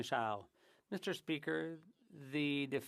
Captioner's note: speaking French